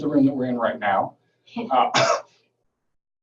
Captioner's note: coughing